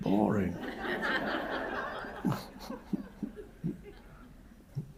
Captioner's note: audience laughing